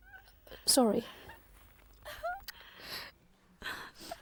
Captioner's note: weeping